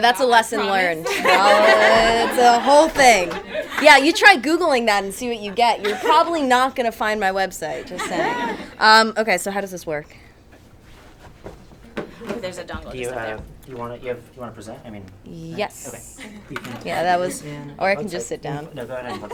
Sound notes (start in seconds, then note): 0.6 attendees laugh